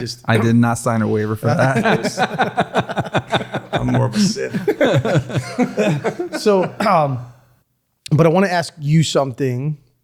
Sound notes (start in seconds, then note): 1.5 everyone laughing